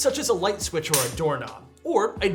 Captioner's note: trigger clicks